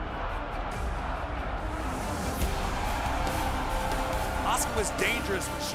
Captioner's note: crowd cheering